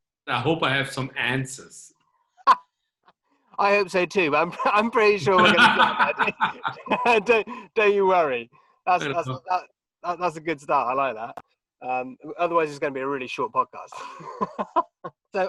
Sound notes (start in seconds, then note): 2.4 laughing; 5.2 laughing; 5.4 murmuring; 13.9 laughing